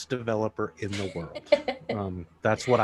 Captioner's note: laughing